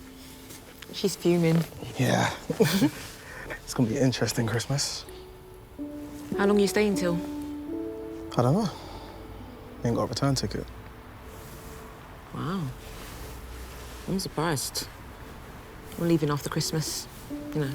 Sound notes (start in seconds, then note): 2.5 Grace and Ethan chuckling